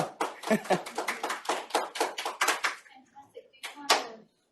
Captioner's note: applause